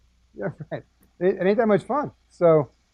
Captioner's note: laugh